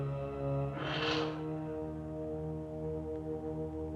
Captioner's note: Katrina blowing